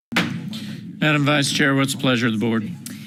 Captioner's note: gavel bangs